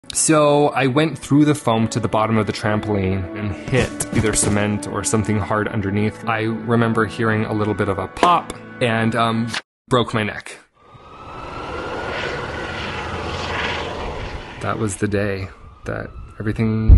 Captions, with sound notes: So I went through the foam to the bottom of the trampoline and hit either cement or something hard underneath. I remember hearing a little bit of a pop (siren blaring) That was the day that everything changed.